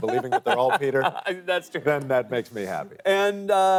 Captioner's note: laughs